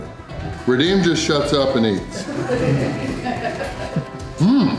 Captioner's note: crowd and laughter